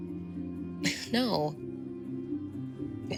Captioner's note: scoffs